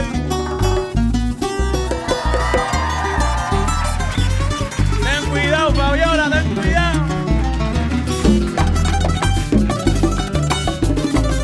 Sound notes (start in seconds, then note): 1.7 applause and cheering; 8.0 band playing